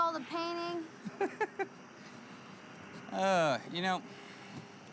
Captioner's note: Louie laughs